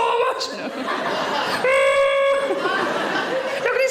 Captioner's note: audience laughing; Sarah groaning